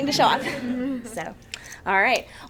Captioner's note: audience chuckles